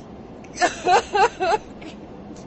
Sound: vicky cries again

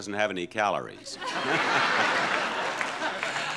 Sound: audience laughs

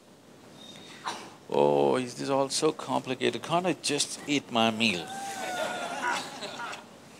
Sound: laughter

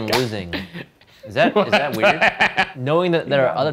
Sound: laughter

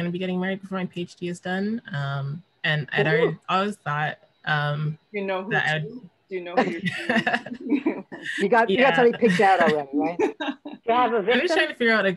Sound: laughter

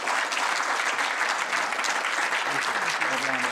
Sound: applause

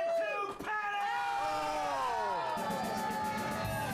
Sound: audience cheers

